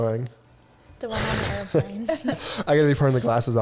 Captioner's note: all chuckling